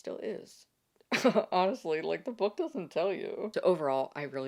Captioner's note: laughs